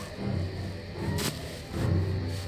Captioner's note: hysterical crying